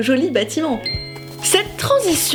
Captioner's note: ping